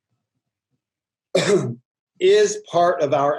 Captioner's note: coughs